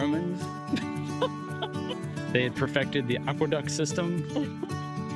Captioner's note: laughs; laughs